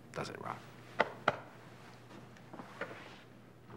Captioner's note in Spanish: palmaditas en la espalda